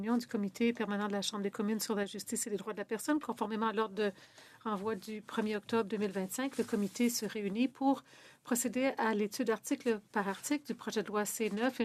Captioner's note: speaking in French